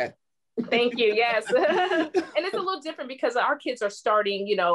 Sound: laughter

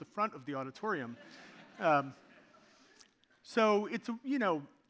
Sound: audience laughing

